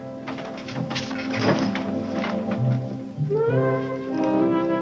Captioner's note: body thudding; mellow music